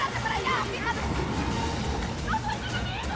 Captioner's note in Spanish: Fuerte ruido de la corriente